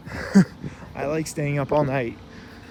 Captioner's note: laughs